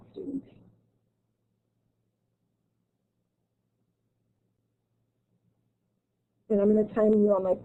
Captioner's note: silence